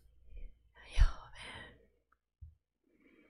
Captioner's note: whispers